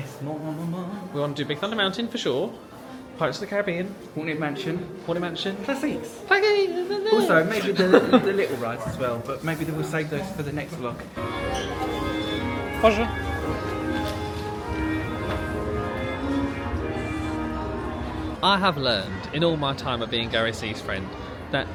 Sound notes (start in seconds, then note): 6.4 mimics French patter; 15.2 ambient festive music